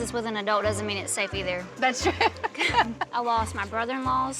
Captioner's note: chuckles